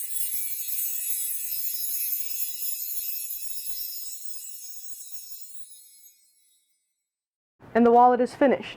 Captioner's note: sparkle sound